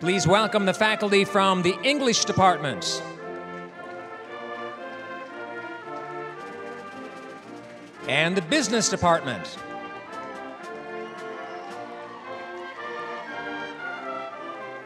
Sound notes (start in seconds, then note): 4.5 applause; 14.3 applause, cheering